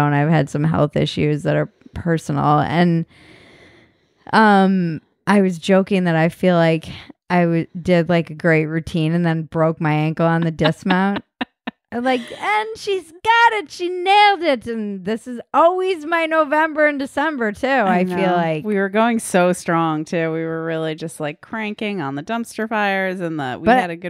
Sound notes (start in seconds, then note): 10.4 laughing